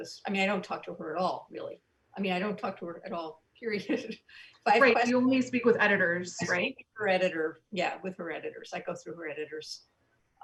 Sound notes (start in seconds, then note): 4.0 soft giggles